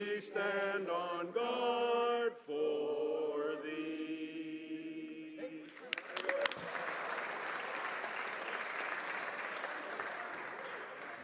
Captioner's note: applause